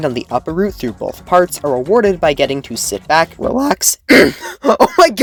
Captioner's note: voicecrack